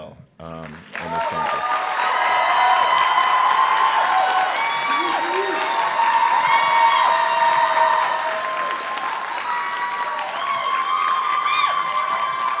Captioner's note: applause